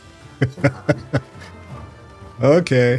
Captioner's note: laughing